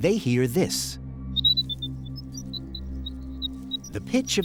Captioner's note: recording of high-pitched squeaking plays